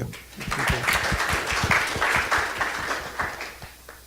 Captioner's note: applause